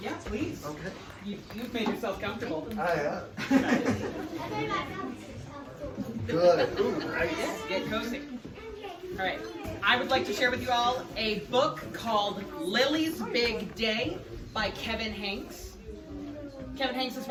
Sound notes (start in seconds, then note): 6.3 laughter